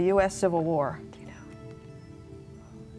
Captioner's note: whispering; ethereal music